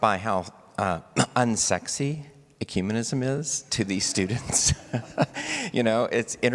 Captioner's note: laughs